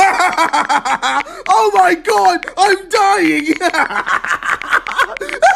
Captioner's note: laughing; laughing loudly